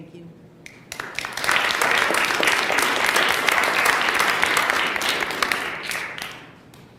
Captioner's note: applause